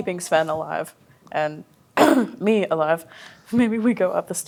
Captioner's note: coughs